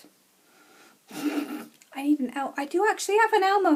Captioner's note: chuckles